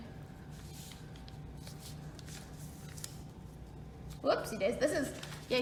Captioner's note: sound of paper creasing